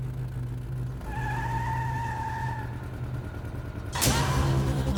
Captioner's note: tires screech; suspenseful music